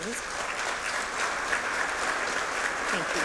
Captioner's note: applause